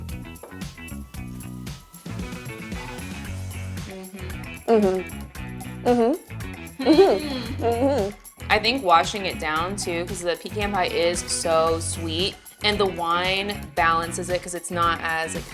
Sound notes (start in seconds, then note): 0.2 upbeat music; 4.6 vocalize